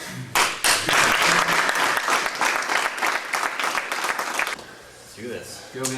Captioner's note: audience applauding